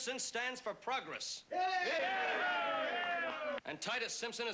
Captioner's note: men cheering